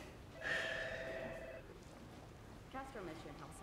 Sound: phone rings

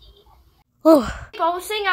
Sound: breathes

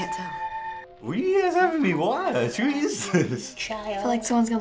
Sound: laughs

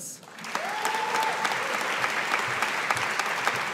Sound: audience applauding

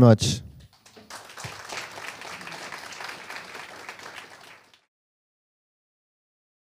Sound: applause

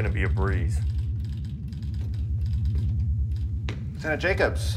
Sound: typing

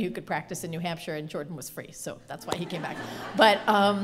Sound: laughter

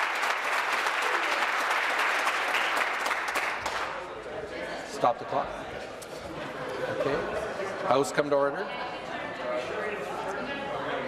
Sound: applause

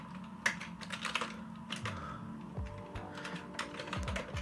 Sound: keyboard clacks

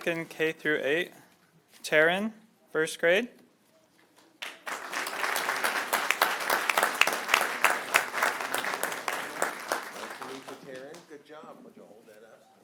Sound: applause

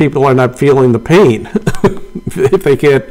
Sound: laughing

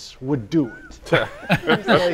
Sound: group laughing

